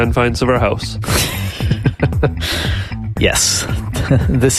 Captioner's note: laughing